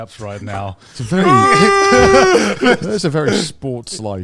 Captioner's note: screams